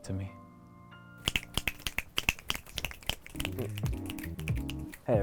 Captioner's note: audience snaps